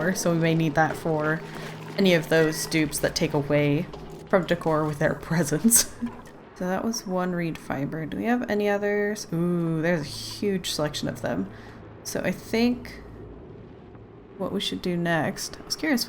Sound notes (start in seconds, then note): 5.8 laughs